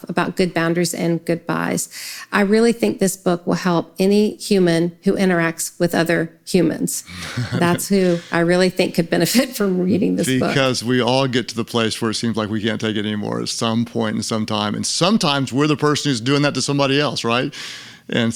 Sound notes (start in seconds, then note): 7.0 laughs; 10.0 laughs